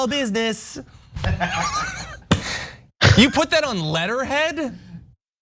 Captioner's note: laugh